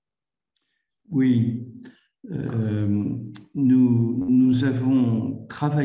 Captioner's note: speaks in foreign language